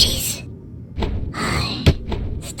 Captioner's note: Yúlia sighs